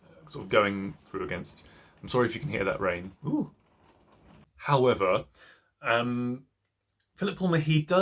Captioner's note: sound of rain